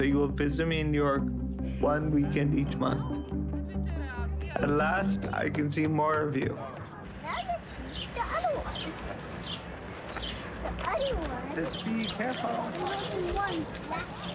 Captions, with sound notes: that you will visit me in New York one weekend each month. (background conversation, footsteps) At last, I can see more of you. - Now let's see the other one. (birds chirping) The other one... - Just be careful. - More than one block... (birds chirping)